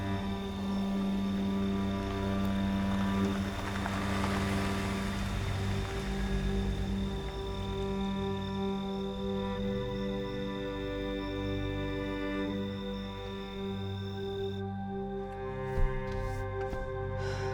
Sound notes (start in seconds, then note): 1.0 car rumbling; 6.7 pensive music; 12.9 pensive music continues